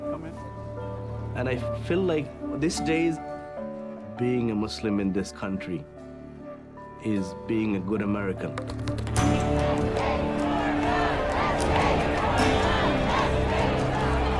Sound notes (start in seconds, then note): 9.2 crowd chanting